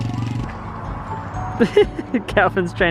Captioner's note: laughs